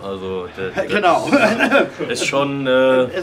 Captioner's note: laughs